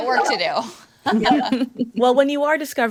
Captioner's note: group laughs